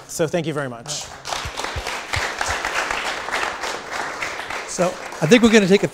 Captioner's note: audience clapping